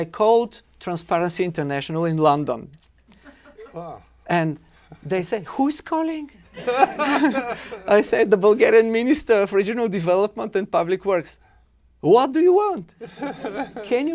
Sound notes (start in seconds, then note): 6.5 laughter; 13.0 laughter